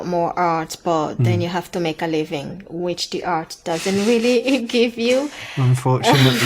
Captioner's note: they laugh